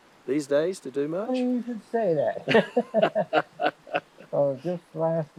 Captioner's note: both laughing